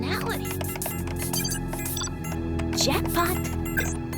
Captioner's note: computer beeping